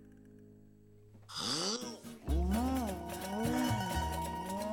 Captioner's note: exhales; growls; gasps